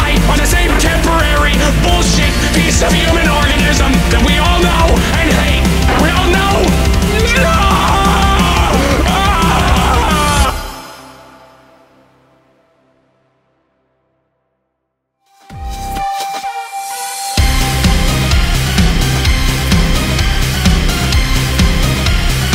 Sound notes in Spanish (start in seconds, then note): 7.8 se transforma en gemidos; 8.8 Gimiendo en agonía